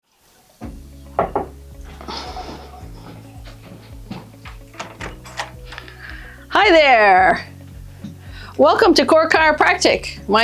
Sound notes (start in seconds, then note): 1.2 door knock; 4.0 footsteps approach